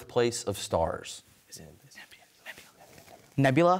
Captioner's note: whispers